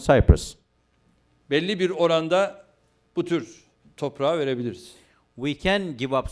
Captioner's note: non-english speech